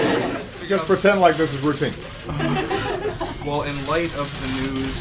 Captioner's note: laughter